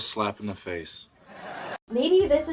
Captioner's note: audience laughing